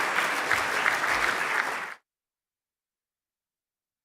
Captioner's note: applause